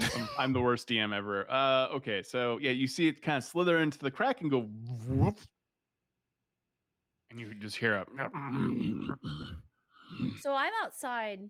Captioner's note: grumbling sounds